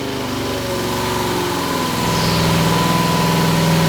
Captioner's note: engine revving